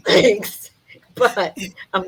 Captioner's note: laughs